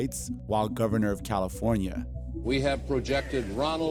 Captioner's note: soundbite of archived recording